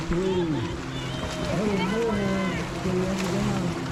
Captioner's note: muffled water and cheering